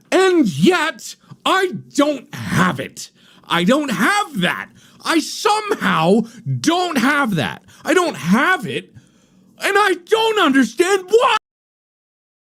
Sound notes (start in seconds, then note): none